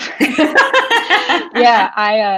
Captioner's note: group laughs